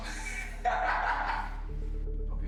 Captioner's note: laughs